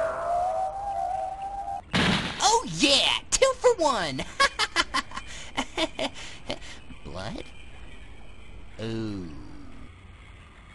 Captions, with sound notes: Oh yeah, two for one! *laughter* ...Blood? Ohhhhh...